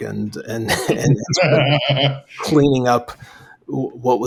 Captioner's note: laughs